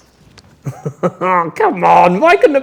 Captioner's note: laughs